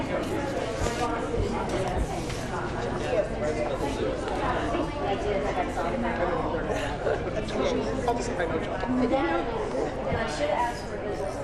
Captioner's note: indistinct chatter